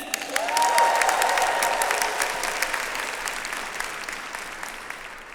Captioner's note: attendees cheering and applauding